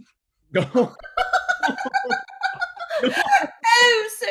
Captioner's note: all laughing